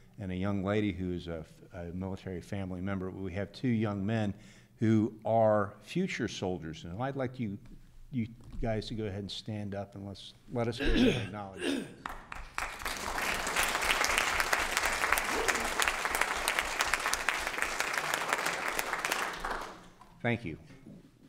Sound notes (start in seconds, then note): 12.0 group applause